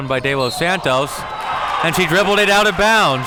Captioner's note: audience clamoring; whistle blows